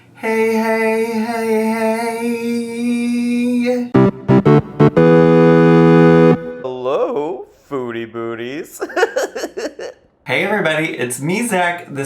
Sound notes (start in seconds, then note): 3.9 gaming music; 8.7 laughing